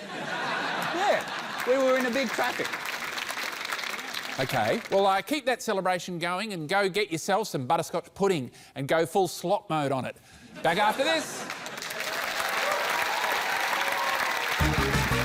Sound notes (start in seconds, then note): 0.0 laughter; 3.4 applause; 11.4 cheering, applause